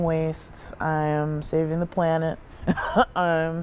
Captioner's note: laughs